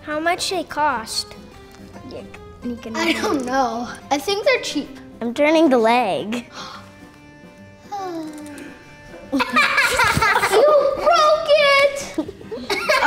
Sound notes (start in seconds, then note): 6.5 gasps; 7.8 sighs; 9.1 laughing